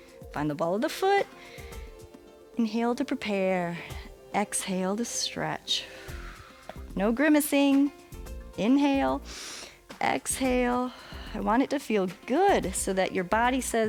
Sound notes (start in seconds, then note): 5.8 exhales; 9.2 inhales; 9.2 exhales